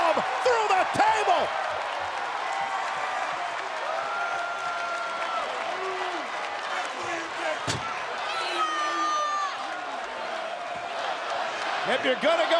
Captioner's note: applause